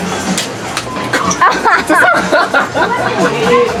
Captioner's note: laughs